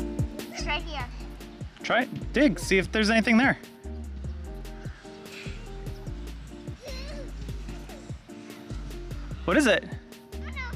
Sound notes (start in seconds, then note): 6.8 laughs